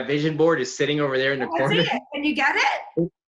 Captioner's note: laughs